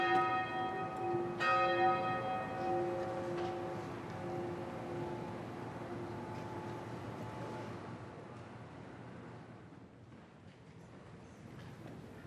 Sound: bells toll

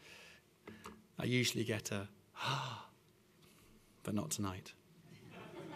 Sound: exhales deeply; laughter

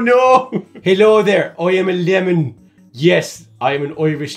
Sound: Irish accent

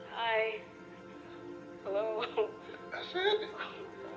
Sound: chuckles

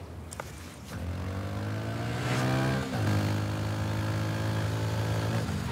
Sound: motorcycle engine revving

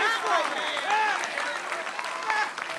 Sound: applause

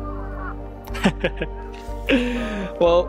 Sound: chuckles

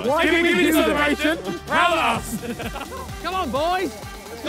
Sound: laughs

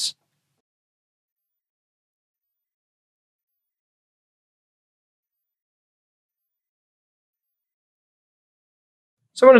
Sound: silence

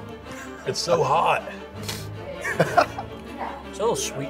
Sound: laughs

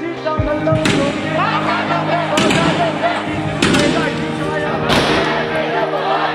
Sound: gun shooting

